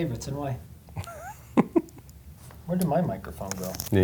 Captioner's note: laughs